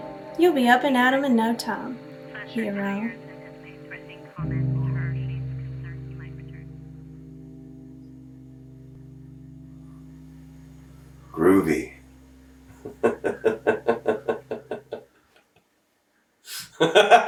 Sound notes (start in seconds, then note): 12.7 laughing